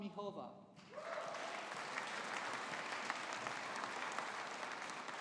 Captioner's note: audience applauding